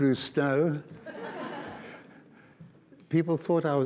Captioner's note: audience laughs